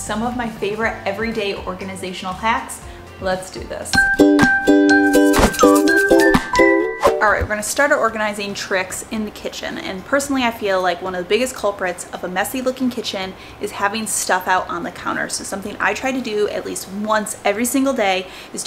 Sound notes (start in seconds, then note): 3.1 cheerful music; 6.9 air whooshing